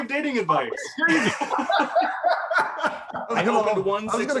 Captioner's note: laughs